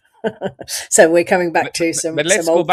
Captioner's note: laughs